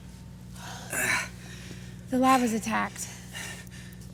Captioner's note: Malcolm groans